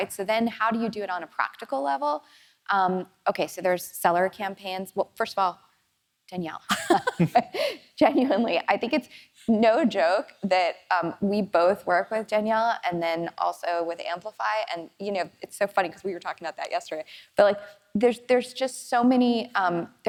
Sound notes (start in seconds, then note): 6.7 chuckling